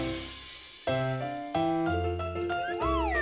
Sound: sparkling sound

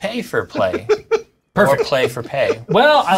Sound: hooting

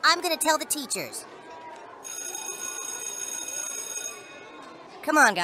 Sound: bell rings

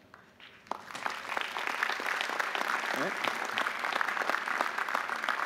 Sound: audience applauding

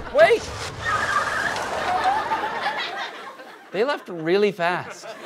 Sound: car screeching away

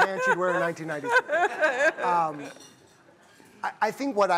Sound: laughter

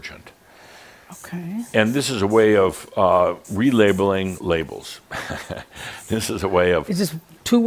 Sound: Adamus chuckles

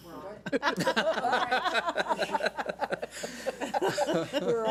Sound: board laughs

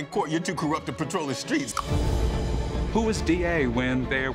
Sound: clicks tongue

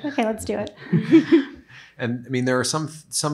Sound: group laughs lightly

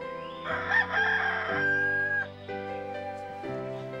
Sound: rooster crowing

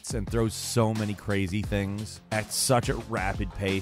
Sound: none

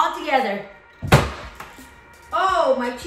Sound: bangs table

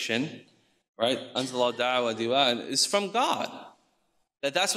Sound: speaks in foreign language

